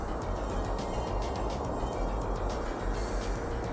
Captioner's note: wind howling